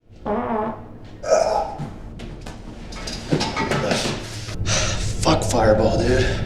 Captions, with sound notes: [fart noise] [groan] [sigh] Fuck fireball, dude.